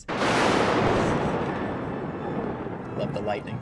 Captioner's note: thunder clapping